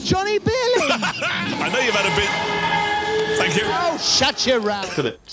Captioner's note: radio host laughs; scream interrupts